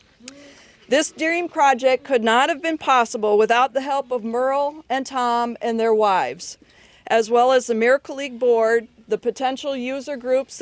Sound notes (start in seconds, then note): none